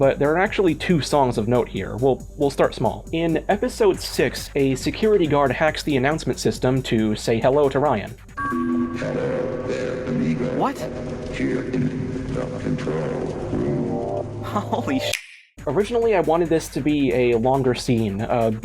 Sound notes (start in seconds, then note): 8.4 klaxon; 14.4 laughs